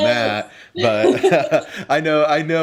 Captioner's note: laughs